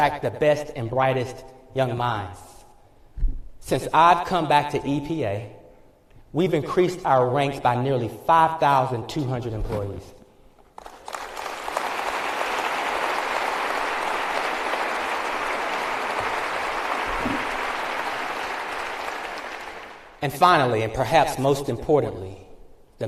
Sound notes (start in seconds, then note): 10.7 applause